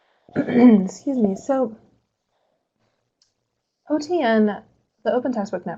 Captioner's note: clears throat